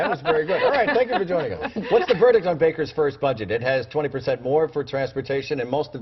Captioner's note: laughter